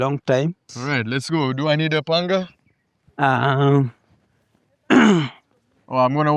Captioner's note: coughs